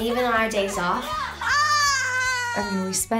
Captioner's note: yells